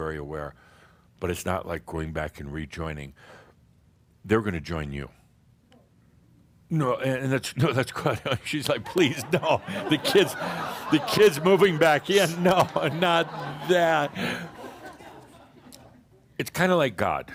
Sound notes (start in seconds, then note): 13.9 more laughter